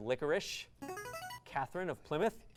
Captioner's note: device sound